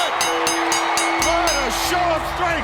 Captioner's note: bell ringing